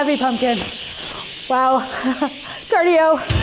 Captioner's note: laughs